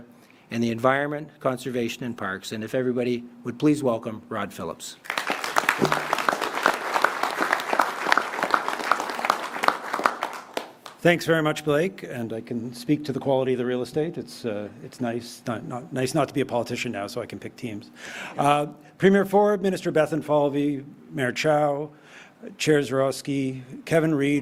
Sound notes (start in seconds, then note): 10.1 applause